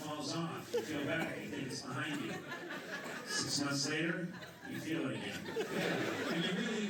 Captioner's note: laughter